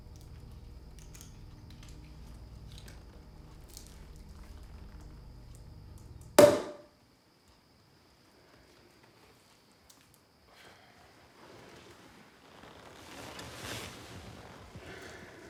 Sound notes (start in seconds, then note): 6.4 cork popping